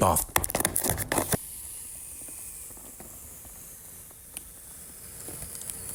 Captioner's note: scratching continues; tape whooshing